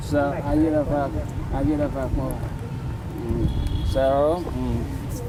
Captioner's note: speaks foreign language